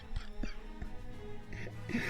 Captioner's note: wheeze